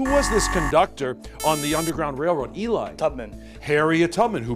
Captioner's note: buzzer